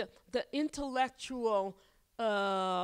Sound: none

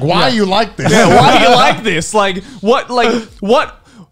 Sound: laughing

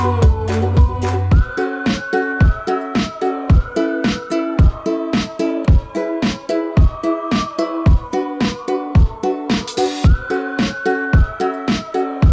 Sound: whistling

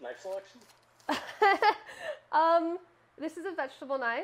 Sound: laughing

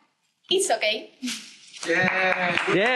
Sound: applause

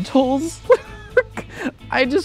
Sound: laughs

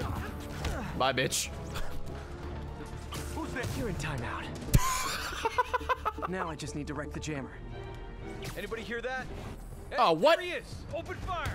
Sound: laughs

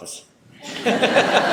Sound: laughter

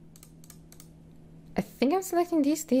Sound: mouse clicking

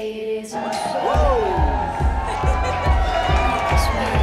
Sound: laughs

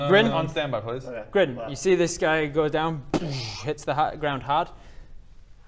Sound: boosh

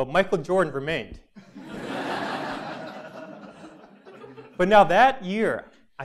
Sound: laugh

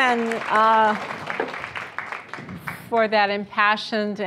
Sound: applause

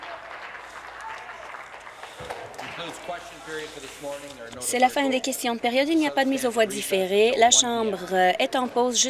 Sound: applause

